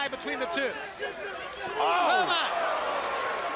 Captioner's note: crowd chatter